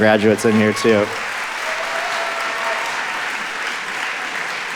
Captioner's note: audience applauding